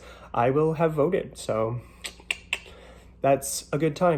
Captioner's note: clicks tongue approvingly